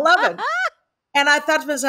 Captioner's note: laughs